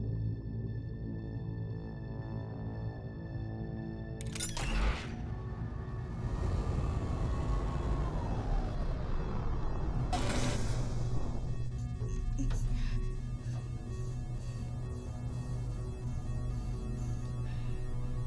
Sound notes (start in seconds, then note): 6.1 machine buzzing and whirring; 11.7 alarm blaring steadily